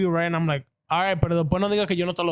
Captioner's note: speaking In Foreign Language